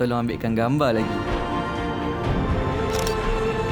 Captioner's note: camera snap; background music